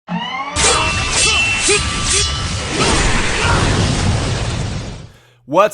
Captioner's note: hydraulic and sword noises, explosions, ninja shouts